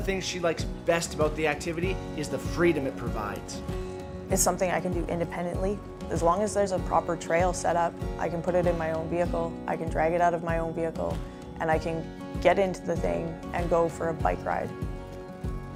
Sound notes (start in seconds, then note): none